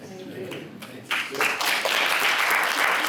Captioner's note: applause